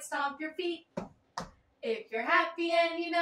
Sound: stomp

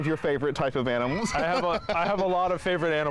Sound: laughing

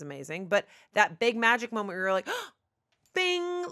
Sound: gasp

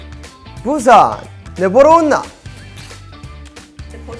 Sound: In Busan dialect

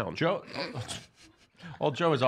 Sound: snickers

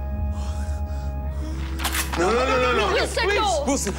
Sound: cocks gun

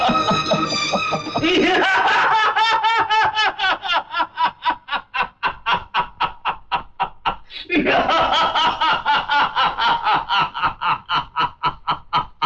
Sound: laughs

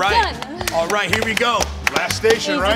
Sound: clapping

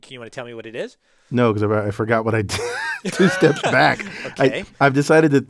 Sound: laugh

